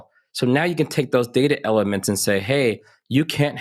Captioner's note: none